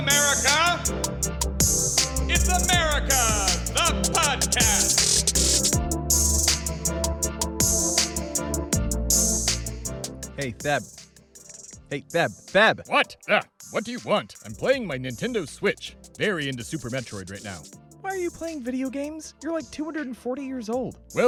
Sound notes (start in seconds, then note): 11.4 snaps